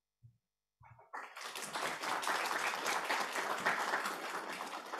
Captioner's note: applause